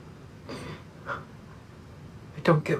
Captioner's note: Billy sniffles